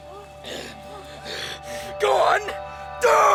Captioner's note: gasping